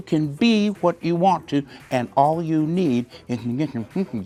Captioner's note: laughing; hums